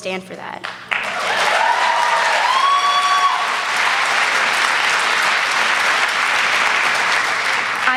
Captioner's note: applause